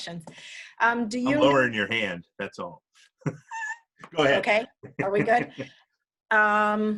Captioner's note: laughs